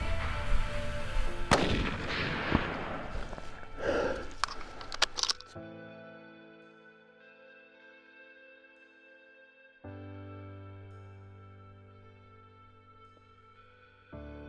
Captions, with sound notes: (gunshot) Holy cow. That’s awesome dude! Dude!